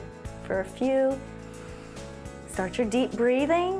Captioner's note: inhales